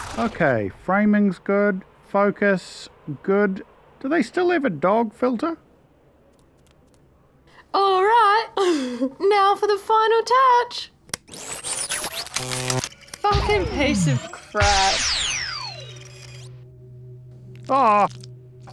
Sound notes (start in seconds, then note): 8.5 laughs; 11.1 short circuits